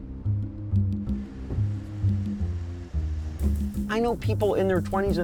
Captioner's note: rain pouring